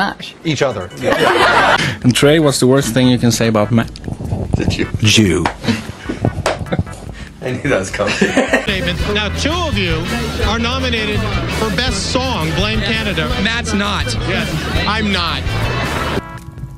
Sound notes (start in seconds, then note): 6.3 smacks leg like an old man